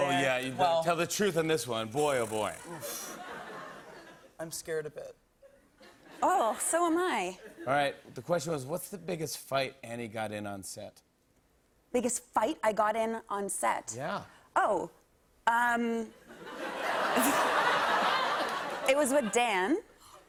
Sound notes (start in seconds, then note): 2.7 laughter; 16.3 laughter